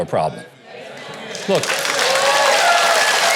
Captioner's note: audience applauding